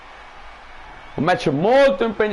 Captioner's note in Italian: Applauso